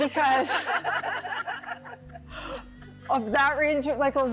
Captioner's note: everyone laughs